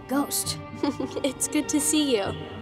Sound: chuckles

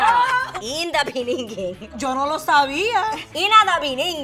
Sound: speaking Spanish

